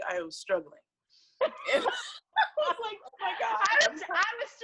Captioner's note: laughs